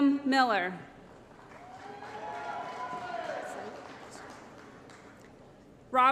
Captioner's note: applause & Cheering